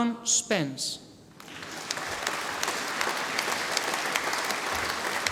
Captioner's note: audience applauding